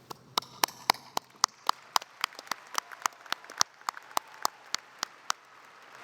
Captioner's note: applause